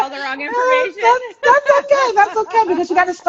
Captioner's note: laughing